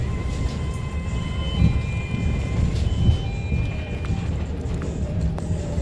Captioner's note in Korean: 하차벨 소리